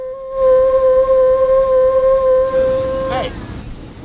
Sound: horn blowing

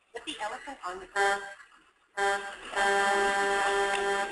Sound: horn honking

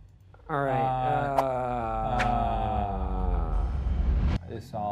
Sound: stammering

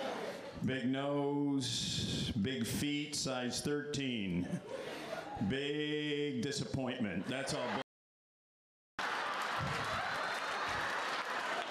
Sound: laughter

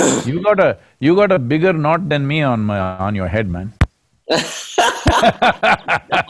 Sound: both laugh

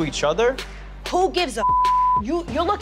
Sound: beep

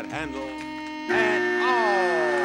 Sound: safe beeps

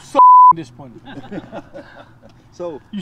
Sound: laughter

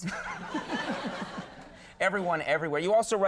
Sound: audience laughing

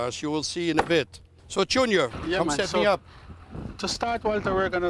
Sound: chopping

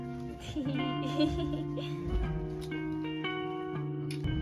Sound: laughter

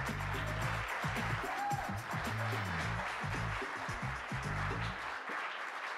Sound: applause

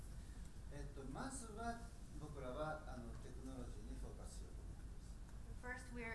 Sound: speaking in foreign language

